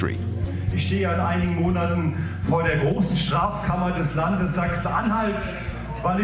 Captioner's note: speaking German